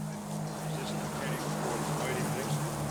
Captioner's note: indistinct chatter